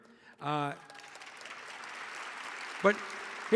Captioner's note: audience applauding